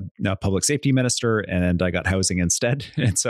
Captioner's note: chuckles